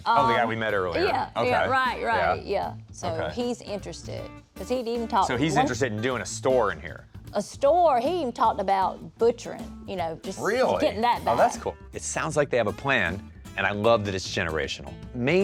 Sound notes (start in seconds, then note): none